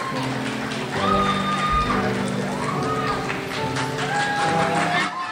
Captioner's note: crowd applauds and cheers